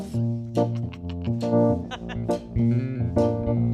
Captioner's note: all laughing